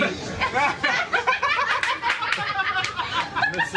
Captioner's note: laughing